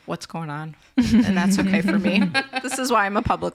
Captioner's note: laugh